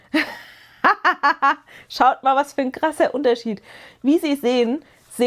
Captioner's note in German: gelächter